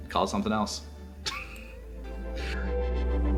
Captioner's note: laughing